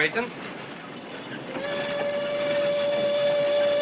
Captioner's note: train whistle blows